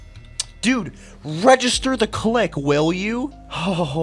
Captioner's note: tch